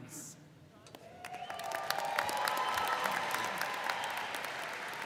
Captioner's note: audience cheers